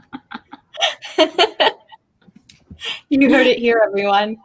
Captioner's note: laughing